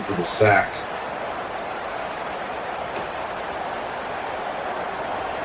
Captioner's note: crowd Noises